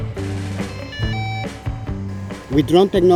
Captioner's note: upbeat music; drone beeping